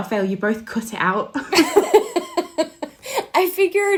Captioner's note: laughing